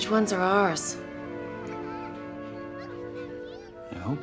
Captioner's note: children giggling